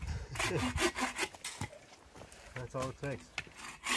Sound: laughing

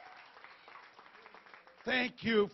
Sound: applause

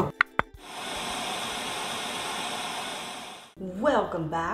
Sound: sizzling

